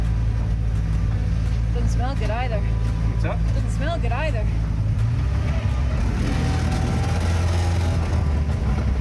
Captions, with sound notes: Doesn't smell good either. - What's that? - Doesn't smell good either. (engine revving)